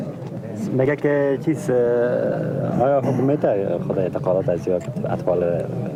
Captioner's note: men speaking in a foreign language